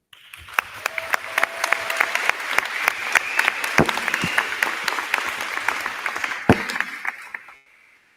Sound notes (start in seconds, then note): 0.0 crowd clapping; 0.1 crowd cheering